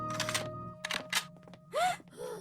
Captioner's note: guns cocking; gasp